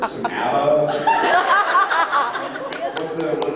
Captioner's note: laughs